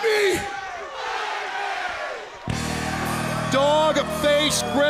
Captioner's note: crowd cheering